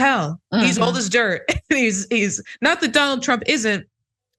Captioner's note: laugh